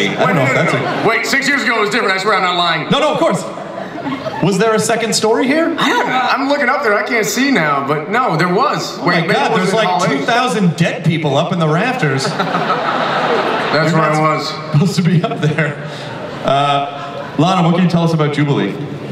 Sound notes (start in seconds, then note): 12.0 audience laughs; 16.8 laughs